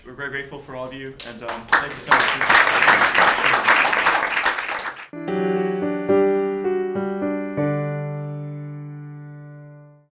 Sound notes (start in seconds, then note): 3.8 applause